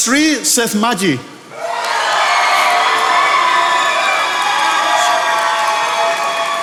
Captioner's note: attendees applauding